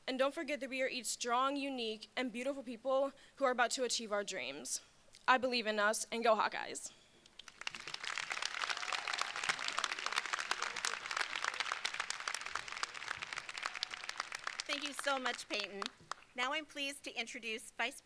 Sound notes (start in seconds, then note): 7.3 crowd applauding; 7.4 crowd cheering